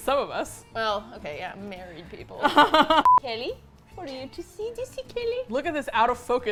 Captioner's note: laughs